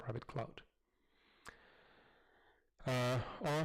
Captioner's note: pause